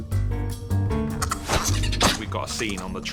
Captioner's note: chitters, sniffing